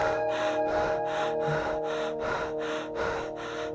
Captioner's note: heavy breathing